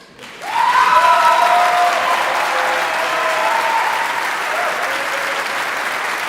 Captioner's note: audience applauding; audience cheering